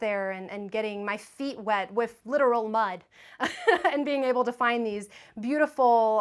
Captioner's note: laughs